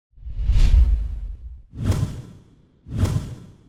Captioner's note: loud whooshing